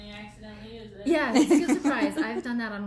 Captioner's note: laughs